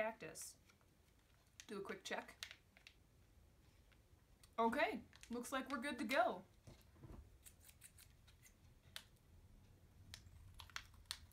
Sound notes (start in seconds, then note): 7.4 scissors snipping